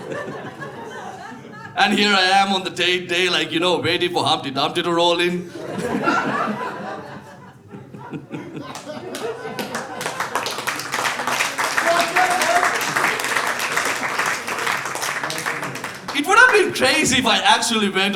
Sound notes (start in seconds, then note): 0.8 audience laughing; 7.1 audience laughing; 8.9 audience clapping